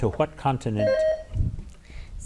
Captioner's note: bell rings